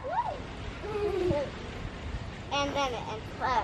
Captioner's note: girls laughing